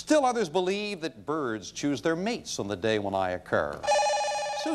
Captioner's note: bell rings